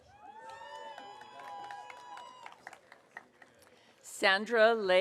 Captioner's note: audience cheering